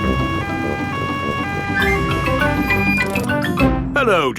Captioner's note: siren wailing